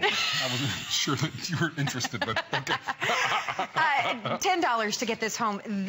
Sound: laughter

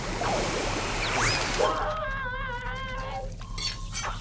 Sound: muffled screaming

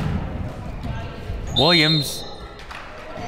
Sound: whistle

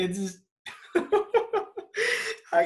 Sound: Leo laughs

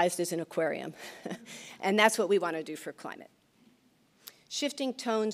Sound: laughs

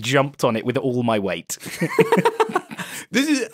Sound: laughs

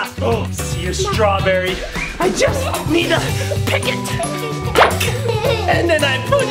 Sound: gasps

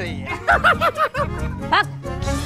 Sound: laughing

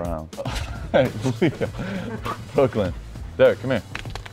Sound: laughs

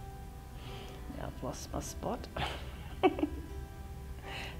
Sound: giggles

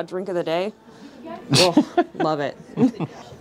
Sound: laughing

